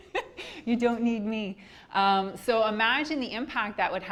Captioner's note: laughing